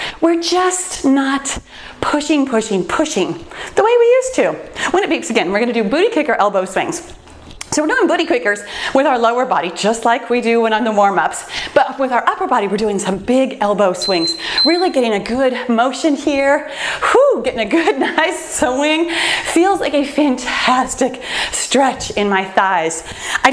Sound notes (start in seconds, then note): 14.0 timer beeps; 18.2 laughs